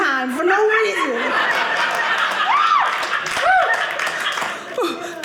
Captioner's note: audience laughing